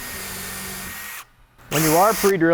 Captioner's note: drill whirs